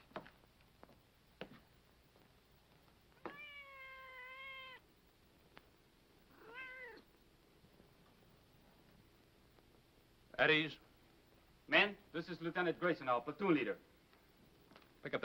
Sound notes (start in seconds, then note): 3.1 cat meows